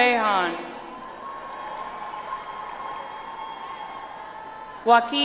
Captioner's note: audience applauds